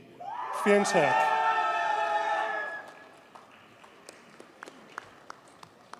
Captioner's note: audience cheers and applauds